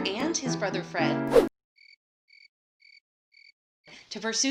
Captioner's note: cricket chirping